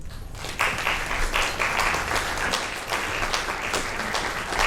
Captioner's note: audience applauds